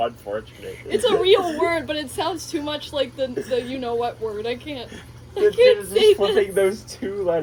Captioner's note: snigger